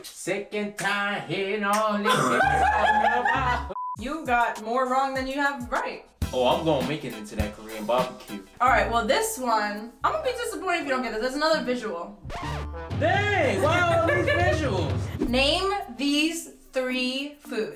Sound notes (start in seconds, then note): 12.3 record scratches